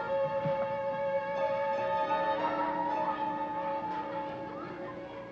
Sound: children shouting

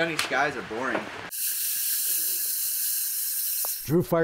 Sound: hissing sound

